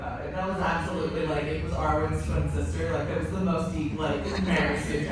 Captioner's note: laughter